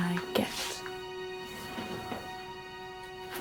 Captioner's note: painting creaks